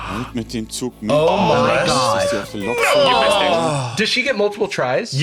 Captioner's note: all exclaiming